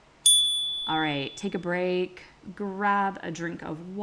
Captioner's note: chime